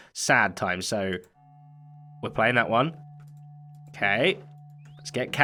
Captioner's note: disc starts